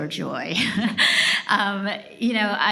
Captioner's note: laughs